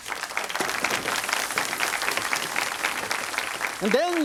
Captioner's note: audience applauds